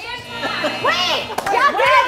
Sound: timer buzzes

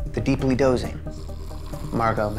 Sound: woman snoring

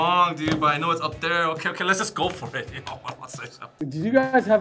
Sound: laughs

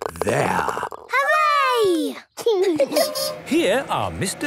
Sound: laughing

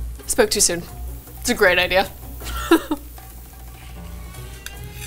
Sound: laughs

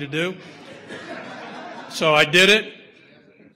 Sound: audience laughter

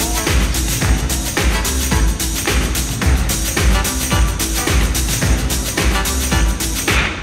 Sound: funky dance music; audience clapping

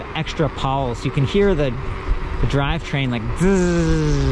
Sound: buzzing sound

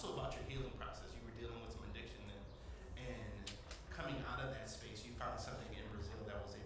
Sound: voice Low

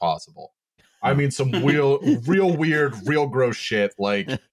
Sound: laughs

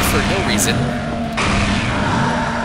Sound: gunfire; gunfire

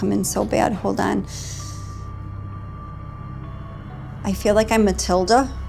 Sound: deep inhale

